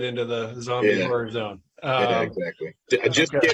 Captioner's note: laughing